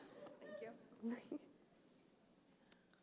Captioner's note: laughter